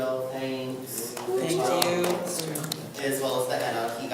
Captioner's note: group applauds